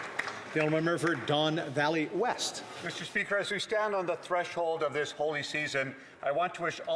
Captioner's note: some Applause